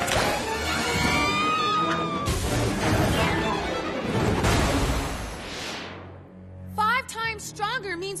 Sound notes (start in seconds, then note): 1.0 screams